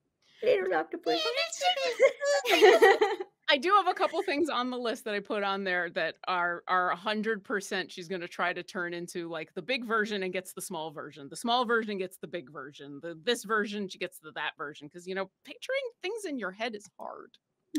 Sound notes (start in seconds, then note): 2.2 squeaks